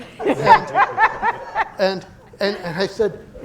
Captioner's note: laughter